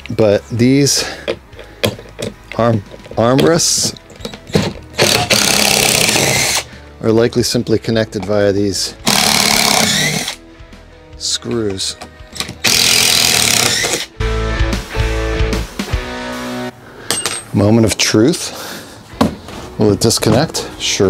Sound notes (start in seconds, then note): 4.9 drill whirring; 9.0 drill whirring; 12.6 drill whirring; 14.0 upbeat music